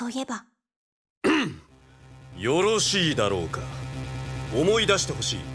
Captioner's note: cough